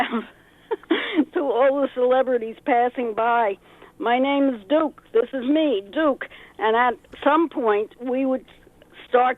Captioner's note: chuckles